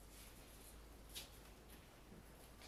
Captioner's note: velcro attaching